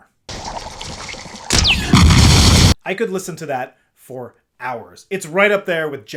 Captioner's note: spark